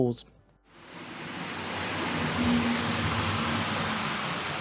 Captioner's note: sounds of model railway